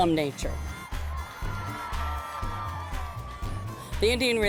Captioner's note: sound of audience cheering